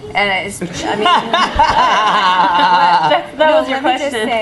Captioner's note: laughing